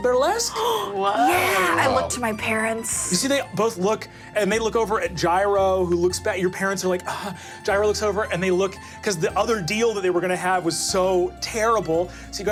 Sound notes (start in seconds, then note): 0.5 gasping; 7.3 gasps